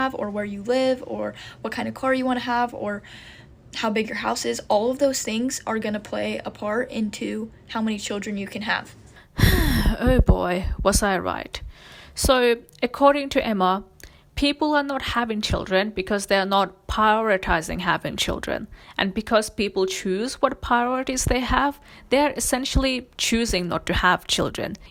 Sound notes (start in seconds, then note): 9.3 sighs